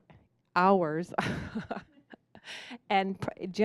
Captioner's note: laughing